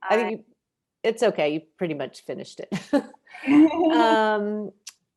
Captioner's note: chuckles